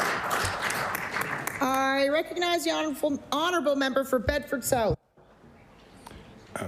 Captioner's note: applause